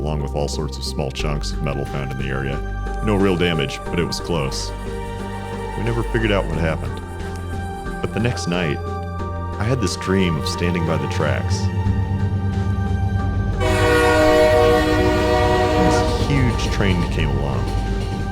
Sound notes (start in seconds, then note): 12.2 approaching train noise; 13.5 train honk